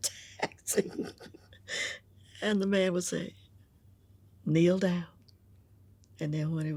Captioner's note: laughs